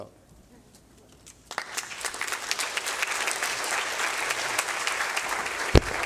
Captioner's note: applause